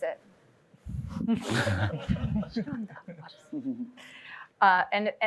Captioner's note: laughter